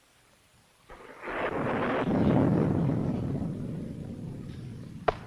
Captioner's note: thunder rumbling